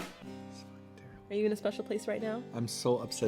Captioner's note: whispers